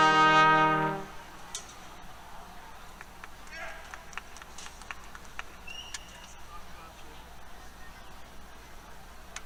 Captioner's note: applause